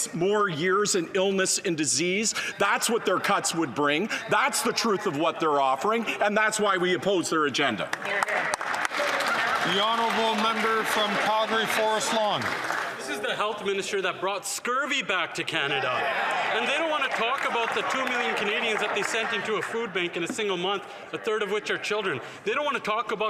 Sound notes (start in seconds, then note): 12.3 some Applause